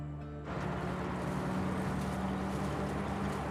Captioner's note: engine rumbling